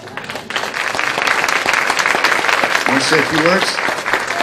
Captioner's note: applause